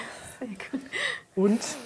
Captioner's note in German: Lachen